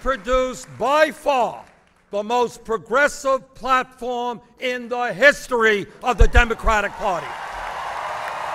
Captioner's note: applause